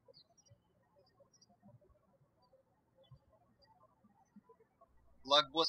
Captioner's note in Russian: птички щебечут